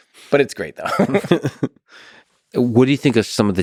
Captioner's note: Lex laughs; Tim laughs